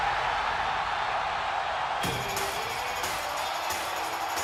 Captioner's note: cheers and applause